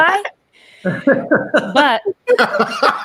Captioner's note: laughing